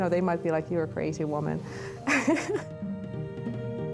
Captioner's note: laughs